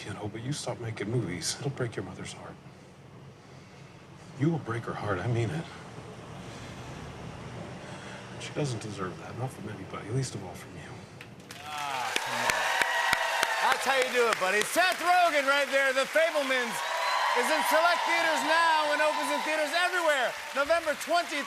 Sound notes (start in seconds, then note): 11.9 cheers and applause